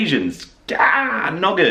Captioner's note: frustrated interjection